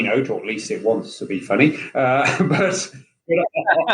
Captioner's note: laughing